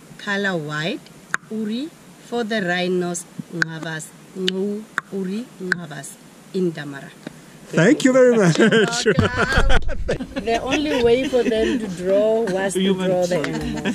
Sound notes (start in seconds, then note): 1.3 click language; 3.7 click language; 9.7 laughs